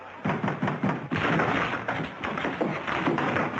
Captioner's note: knocking